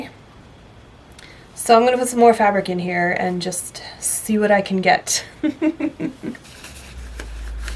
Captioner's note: laughs